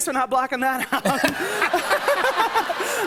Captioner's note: laughter and applause